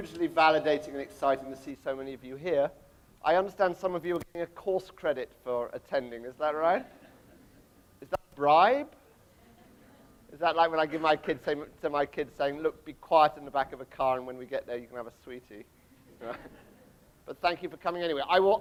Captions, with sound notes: Hugely validating and exciting to see so many of you here. I understand some of you receive course credit for attending, is that right? (audience laughter) Is that right? Is that like when I give my kids, my kids say, look be quiet in the back of the car and then when we get there you can have a sweetie. (laughs) Well, thank you for coming anyway, I will